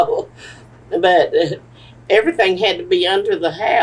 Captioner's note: laughs